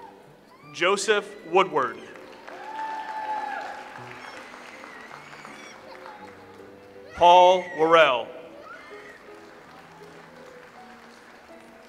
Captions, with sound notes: Joseph Woodward. (audience applauds) Paul Worrell. (audience applauds)